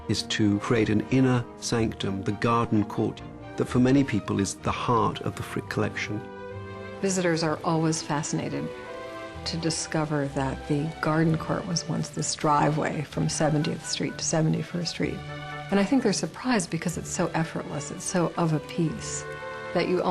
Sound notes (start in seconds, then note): 7.2 voiceover